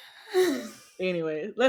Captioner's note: heavy sigh